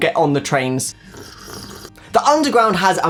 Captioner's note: slurping